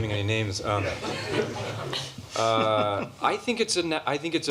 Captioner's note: laughter